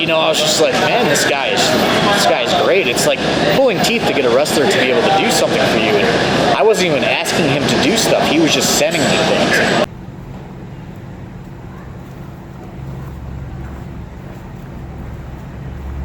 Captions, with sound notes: You know, I was just like, man, this guy is great. It's like pulling teeth to get a wrestler to do something for you and I wasn't even asking him to do stuff, he was just sending me things. (distant traffic thrumming)